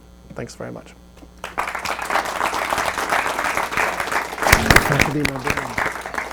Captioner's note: audience applauds